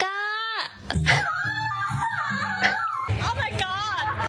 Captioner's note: laughs